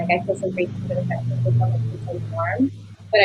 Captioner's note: buzzing cuts out Aurora's audio